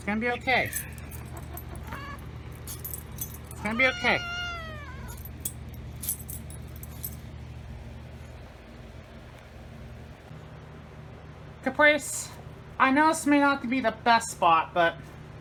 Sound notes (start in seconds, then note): 0.0 Ella growls at chews on Caprice; 0.9 Caprice growls; 3.4 Caprice meows